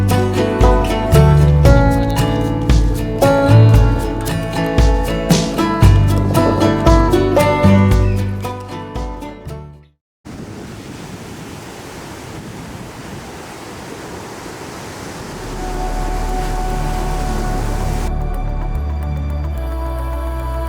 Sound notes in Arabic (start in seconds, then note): 10.2 تحطم الأمواج; 17.4 موسيقى ملهمة